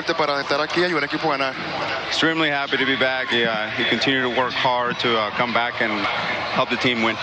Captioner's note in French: speaking spanish